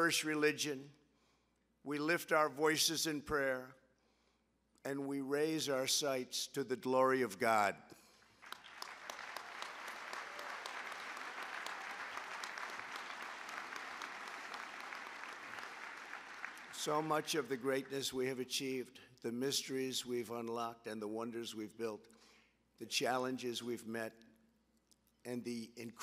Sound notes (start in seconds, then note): 9.2 applause